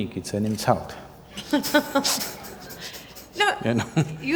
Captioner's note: Juhi Laughs